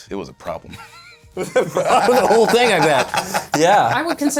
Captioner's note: laughs